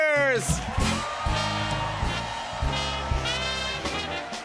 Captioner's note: cheers and applause